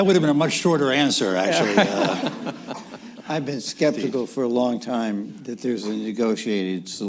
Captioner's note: laughter